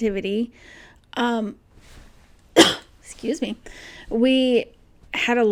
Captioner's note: coughs